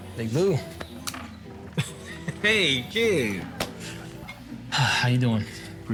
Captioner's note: chuckles